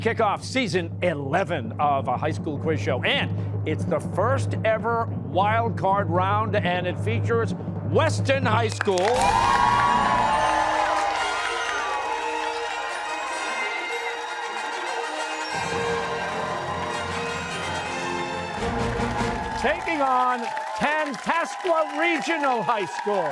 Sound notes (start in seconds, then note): 9.1 fanfare; 11.1 cheers and applause